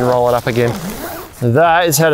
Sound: tent zipping

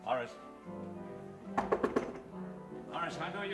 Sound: knocking on door

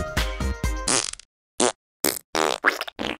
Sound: farting

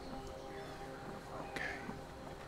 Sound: whisper

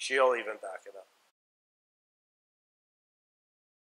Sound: silence

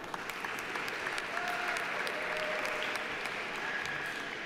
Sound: audience applauding

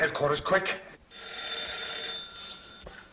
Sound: phone rings

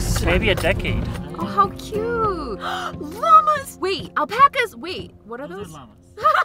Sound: gasp

